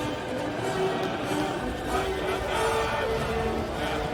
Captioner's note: chanting